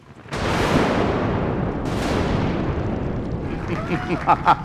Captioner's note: thunder and lightning; evil laughter